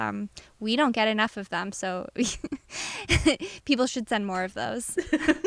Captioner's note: laughter